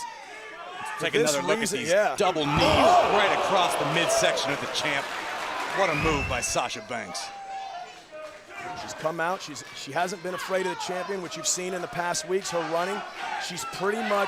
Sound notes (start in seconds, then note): 6.3 crowd cheering; 9.0 crowd chatter